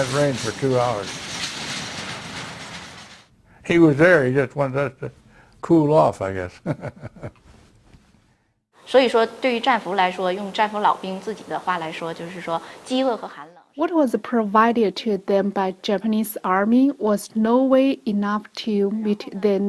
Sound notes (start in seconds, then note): 6.6 chuckles; 9.9 speaking foreign language